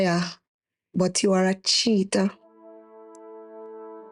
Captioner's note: speaking in foreign language